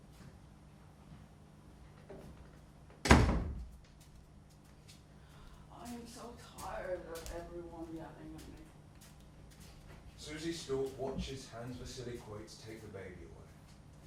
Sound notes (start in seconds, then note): 3.0 door slams